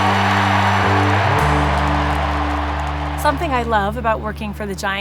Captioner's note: applause